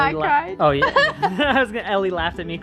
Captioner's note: laughs